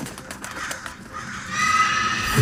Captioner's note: birds fluttering; crows calling; monster screeches